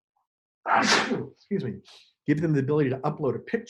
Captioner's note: sneezes